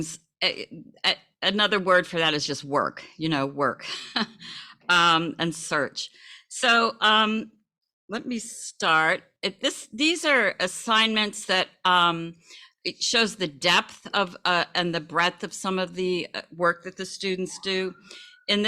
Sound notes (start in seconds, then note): 4.4 laughs